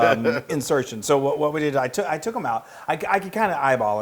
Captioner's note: laugh